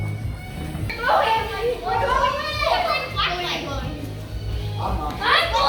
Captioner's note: children chattering excitedly